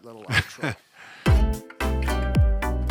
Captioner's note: laughs; upbeat music plays